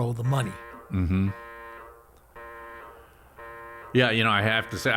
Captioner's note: alarm blaring